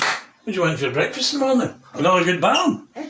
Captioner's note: clapping